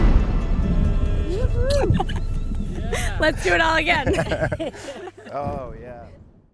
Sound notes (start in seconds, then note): 1.0 cheering; 4.2 laughing